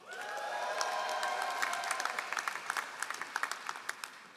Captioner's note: all applauding